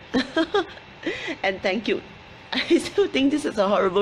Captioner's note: laughs